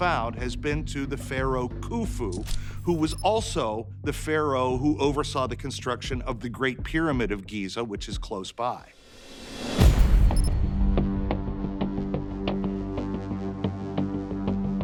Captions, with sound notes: has been to the Pharaoh Khufu, who was also the pharaoh who oversaw the construction of the Great Pyramid of Giza, which is close by. [dynamic music] [text beeping]